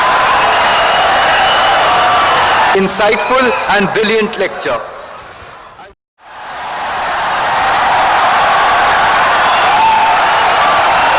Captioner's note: wild applause and cheering for 17 seconds